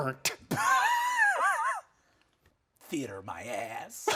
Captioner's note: laughing